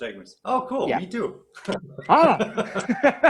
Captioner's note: laughs